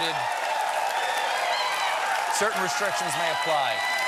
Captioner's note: cheers and applause